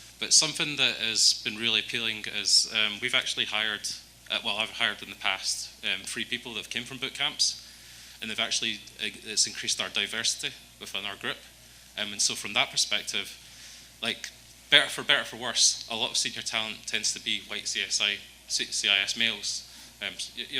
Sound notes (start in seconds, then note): none